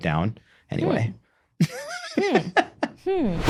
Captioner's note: laughing